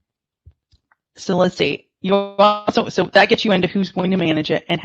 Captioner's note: audio distortion